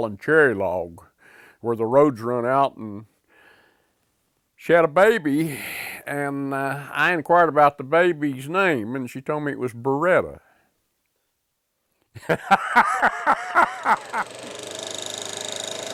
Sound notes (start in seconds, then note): 12.1 laughter